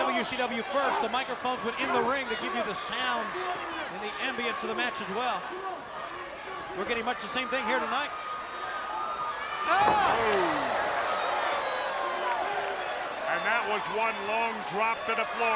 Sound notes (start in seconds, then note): 11.9 crowd cheering